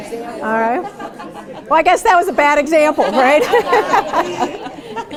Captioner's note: laughter